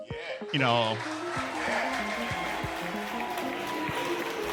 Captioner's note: applause